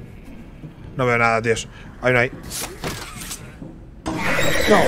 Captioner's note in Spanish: Gruñido